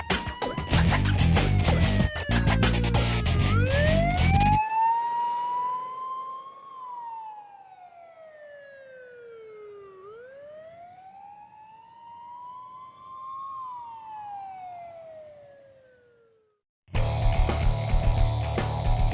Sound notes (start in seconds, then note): 4.5 rock music ends; 7.1 police siren fades; 16.9 heavy rock music plays